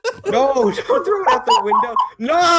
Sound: eternal laughing

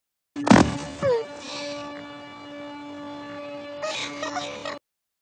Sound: groans and crying

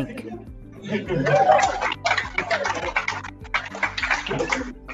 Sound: cheering

